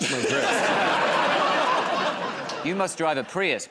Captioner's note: laughter